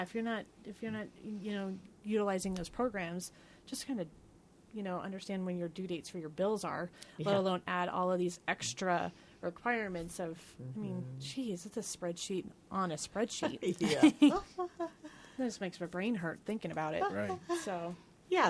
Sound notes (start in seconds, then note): 13.5 others laughing